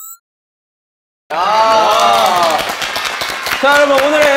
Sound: clap clap clap clap clap

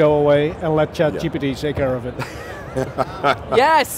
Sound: laughs

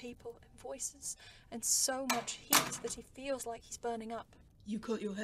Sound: door opens and closes

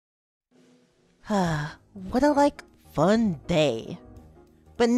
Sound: sigh

